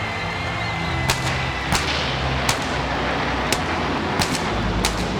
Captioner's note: fireworks popping